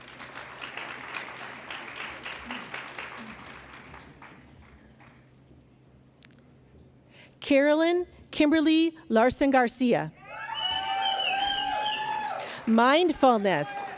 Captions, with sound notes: [ Applause ] Carolyn Kimberly Larson-Garcia, "Mindfulness,